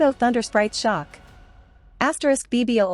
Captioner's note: b-boooooooom!!!!